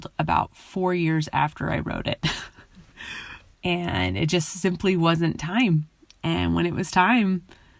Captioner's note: chuckles